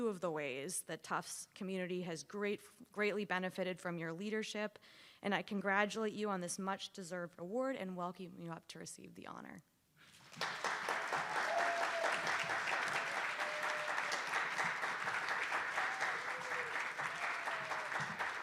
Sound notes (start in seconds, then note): 10.2 attendees applauding